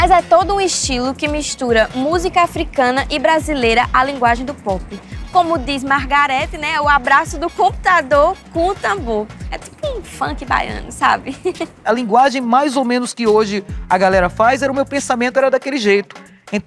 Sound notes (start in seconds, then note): 11.3 laughs